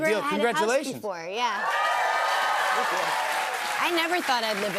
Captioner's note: cheers and applause